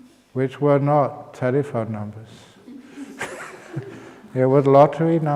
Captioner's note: laughs